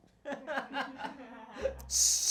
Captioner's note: audience laughing